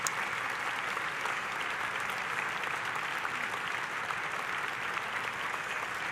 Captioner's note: audience continues applauding